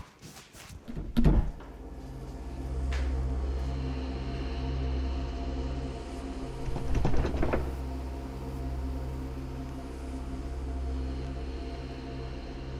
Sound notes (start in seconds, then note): 3.5 loud thud; 3.5 ominous music